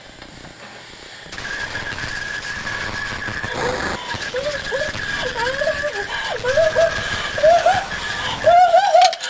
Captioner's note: crying doubled by noise; crying